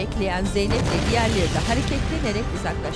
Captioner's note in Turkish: Patlama sesi